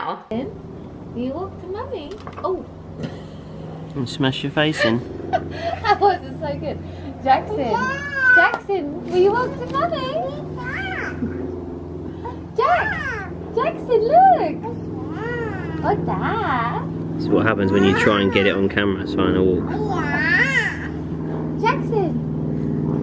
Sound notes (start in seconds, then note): 4.6 laughs; 8.1 shouts; 20.3 shouts